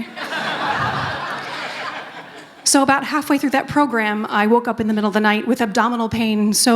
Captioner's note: laughter